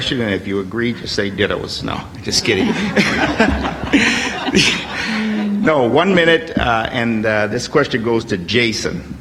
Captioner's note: laughs; laughter